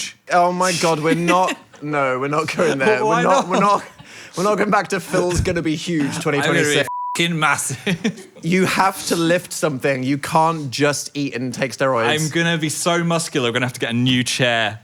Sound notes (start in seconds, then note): 6.5 beeps